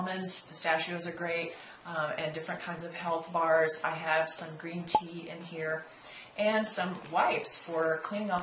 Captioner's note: pop